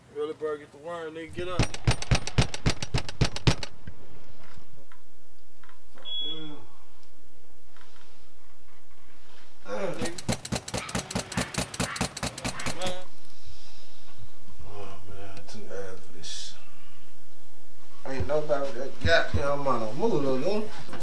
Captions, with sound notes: Early bird get the word nigga, get up! [Door Knocking] What the hell... Damn.. [Door Knocking] Aww man it's too early for this shit. Aint nobody but the Got Damn Mono!! Move LouLou